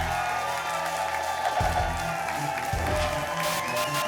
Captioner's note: applause and cheering cont; whoosh; static